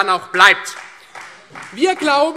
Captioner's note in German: Beifall Freie Demokraten und vereinzelt CDU